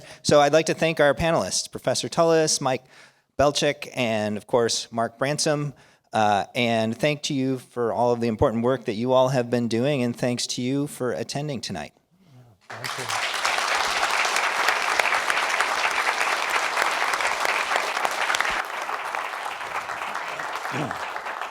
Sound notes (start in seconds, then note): 12.7 applause